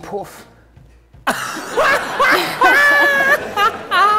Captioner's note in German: lacht schrill